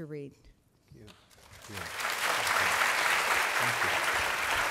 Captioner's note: applause